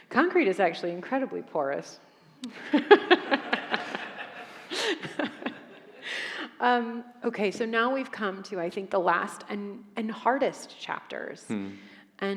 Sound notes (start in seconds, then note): 2.4 audience laughing; 2.4 laughs